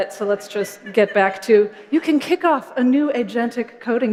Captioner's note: laughter